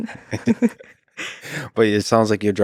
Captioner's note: both chuckling